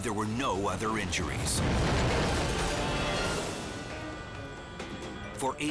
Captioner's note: highway crashing